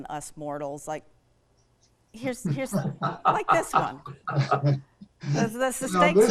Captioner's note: laughing